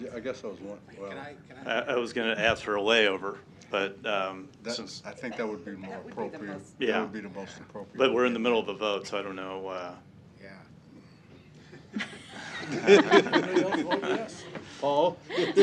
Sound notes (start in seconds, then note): 11.7 laughter